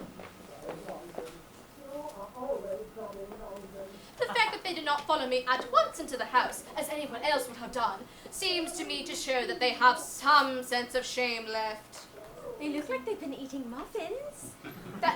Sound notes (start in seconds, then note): 1.6 Jack and Algernon chattering